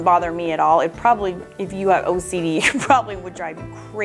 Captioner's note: laughs